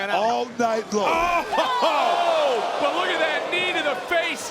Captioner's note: commentators exclaim